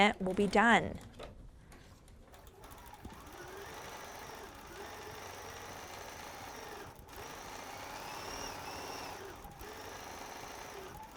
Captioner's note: sewing